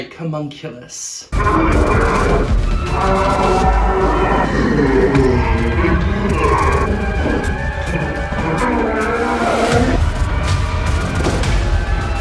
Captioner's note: distorted screaming sounds and dramatic music